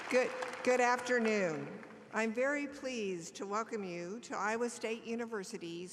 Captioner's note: applause